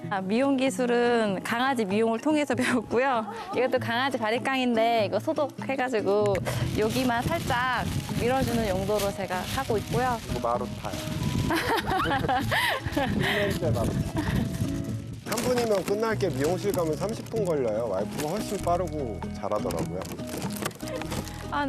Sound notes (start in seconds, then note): 11.5 laughs